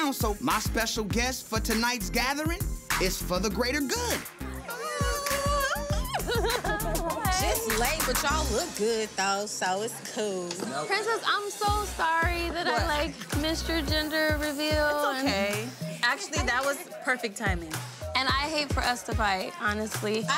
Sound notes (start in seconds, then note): 4.6 girls squealing